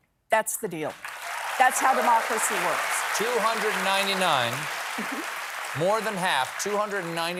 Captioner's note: applause